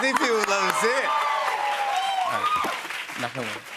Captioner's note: cheers and applause